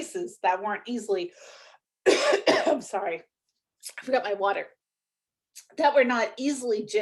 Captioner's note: coughs